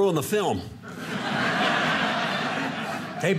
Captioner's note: audience laughing